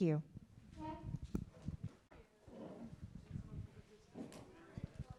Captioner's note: chairs squeaking